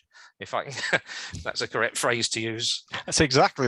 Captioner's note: laughs